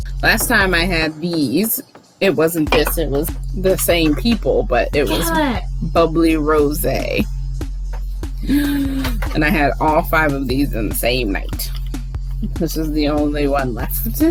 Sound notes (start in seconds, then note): 8.4 gasps